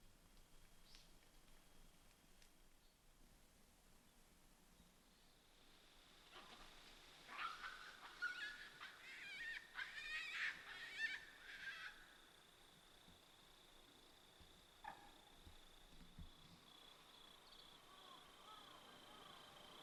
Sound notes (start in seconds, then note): 7.2 shrieking monkeys